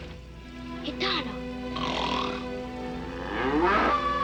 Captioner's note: loud snoring